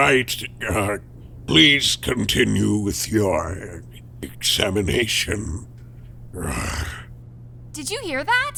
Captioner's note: sigh